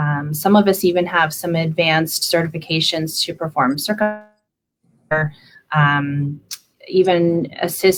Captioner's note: computer static occuring